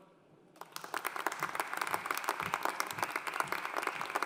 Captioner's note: audience applauding